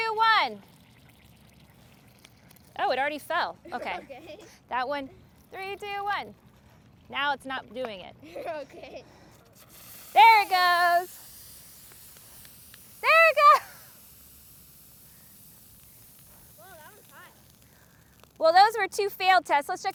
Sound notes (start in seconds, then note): 3.6 giggles; 8.2 giggles; 11.1 fizzing